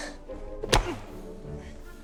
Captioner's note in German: snape ächzt